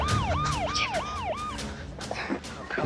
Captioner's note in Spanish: Habla entre dientes